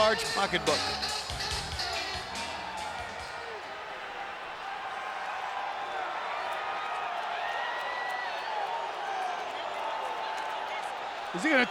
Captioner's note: applause